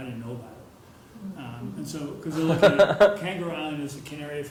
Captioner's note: laugh